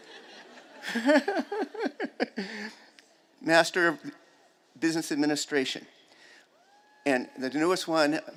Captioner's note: chuckles